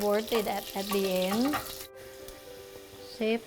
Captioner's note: pan sizzling